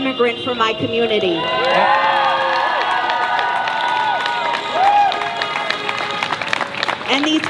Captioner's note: cheering